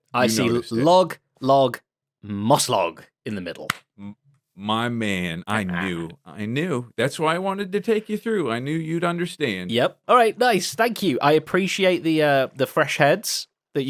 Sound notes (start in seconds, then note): 3.6 claps